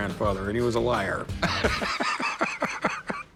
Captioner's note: laughs